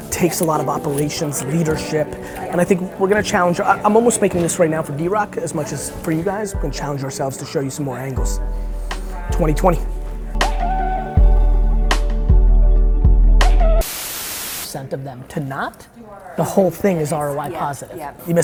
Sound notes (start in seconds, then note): 10.6 steady hip-hop music; 13.8 static